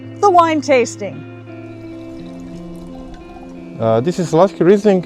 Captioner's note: wine pouring